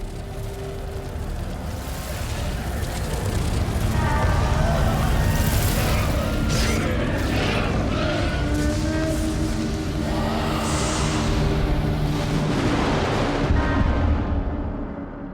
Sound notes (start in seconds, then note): 2.6 wings fluttering